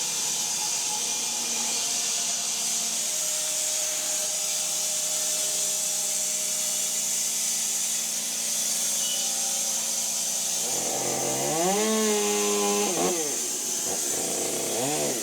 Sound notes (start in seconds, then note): 10.4 chainsaw buzzing